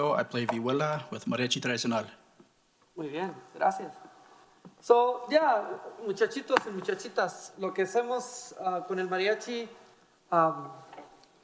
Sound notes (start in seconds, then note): 3.3 speaking in foreign language